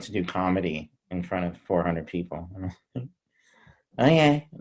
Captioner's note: chuckles